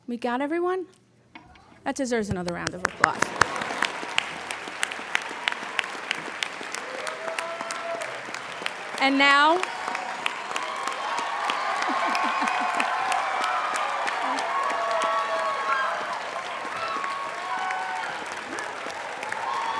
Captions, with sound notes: We got everyone? That deserves another round of applause. (applauding) And now... (cheering)